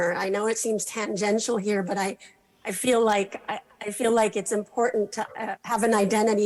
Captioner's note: none